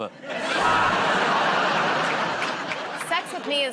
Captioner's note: laughter